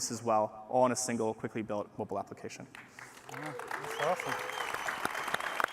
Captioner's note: applause